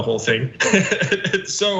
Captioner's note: laugh